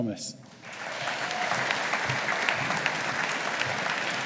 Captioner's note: audience applauding